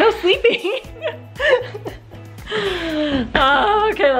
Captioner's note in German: Lachen